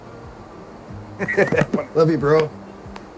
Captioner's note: Rick laughs